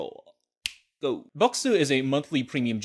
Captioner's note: fingers snap